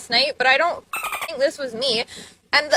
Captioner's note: bird chirping